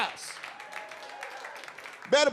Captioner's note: audience applauds